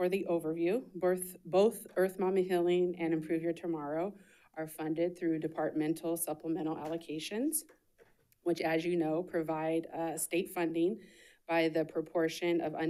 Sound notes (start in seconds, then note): none